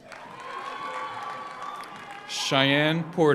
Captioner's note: audience applauds; audience cheers